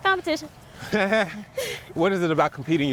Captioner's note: laughs